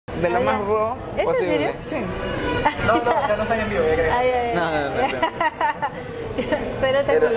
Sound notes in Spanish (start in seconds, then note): 5.0 risas